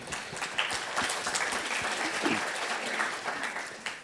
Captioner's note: audience applauds